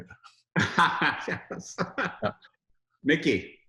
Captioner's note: chuckling